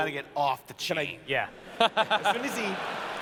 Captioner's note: laughter